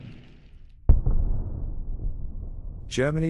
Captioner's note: explosion booms